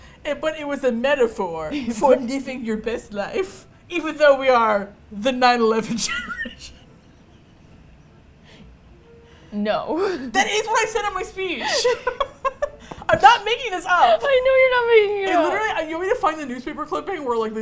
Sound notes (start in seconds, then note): 5.8 laughs; 11.6 both laugh